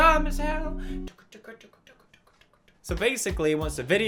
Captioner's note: more ticking sounds